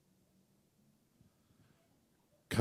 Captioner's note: pause